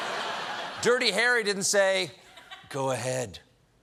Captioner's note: laughter